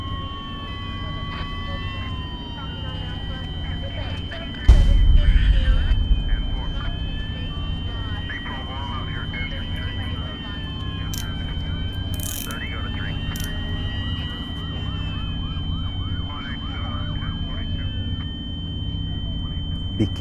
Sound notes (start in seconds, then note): 0.0 police sirens blaring; 7.9 police sirens blaring; 12.1 cuffs clicking; 14.3 police sirens blaring; 19.9 police sirens blaring